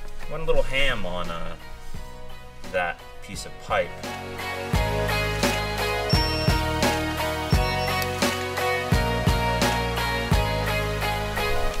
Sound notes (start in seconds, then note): 3.8 synthesized music; 4.6 tools whirring